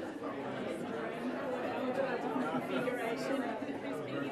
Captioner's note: audience chatter